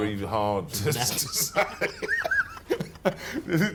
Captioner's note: laughing